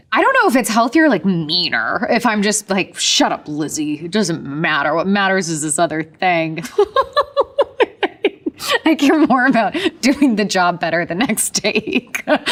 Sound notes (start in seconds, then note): 6.6 Elizabeth laughing